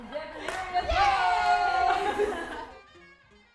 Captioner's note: group chuckles; gentle jazz music fades